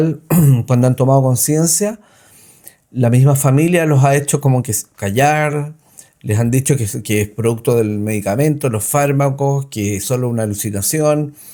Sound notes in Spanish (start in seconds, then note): 0.2 carraspeo